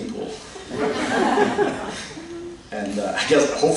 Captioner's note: laughter